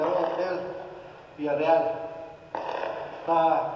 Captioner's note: gunshots